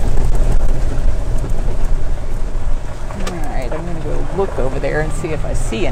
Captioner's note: vibrations